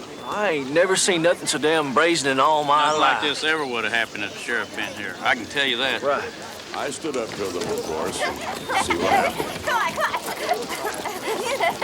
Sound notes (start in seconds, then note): 6.7 townsfolk chatter; 7.6 children giggle